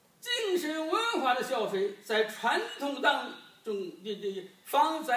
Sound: speaking foreign language

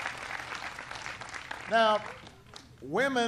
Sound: applause

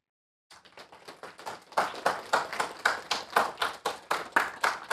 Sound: attendees clapping

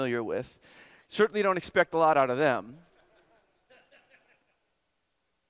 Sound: audience laughter

